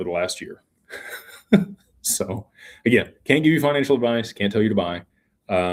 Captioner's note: laughter